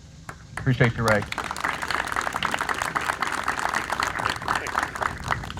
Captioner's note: audience applauds